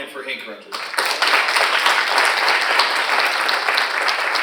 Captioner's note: audience applauding